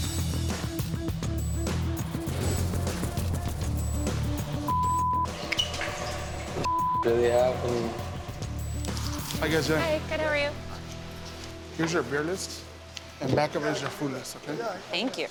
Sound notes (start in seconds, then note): 0.0 upbeat rock music; 3.5 beep; 6.6 beep